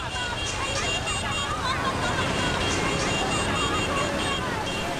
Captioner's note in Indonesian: suara kekacauan